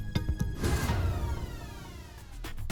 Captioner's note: phaser sound